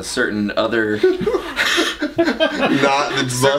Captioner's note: laughs loudly